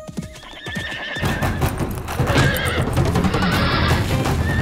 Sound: horse neighing

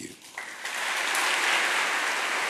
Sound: applause

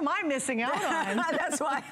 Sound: laughter

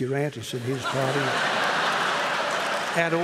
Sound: laughter

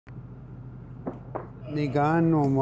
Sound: Speaking in Michif

